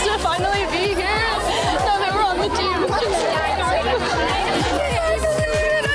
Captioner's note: crying